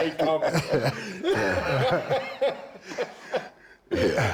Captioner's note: Rick and Bron laughing